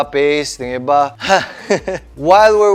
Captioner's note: breathes out